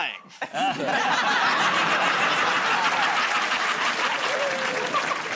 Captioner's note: laughter